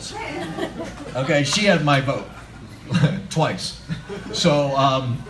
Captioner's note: laughter; laughter